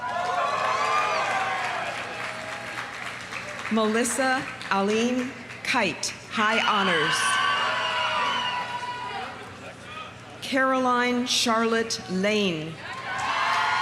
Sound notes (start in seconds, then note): 0.0 audience cheering; 0.0 audience applauding; 6.6 audience cheering; 7.1 audience applauding; 12.8 audience cheering; 12.9 audience applauding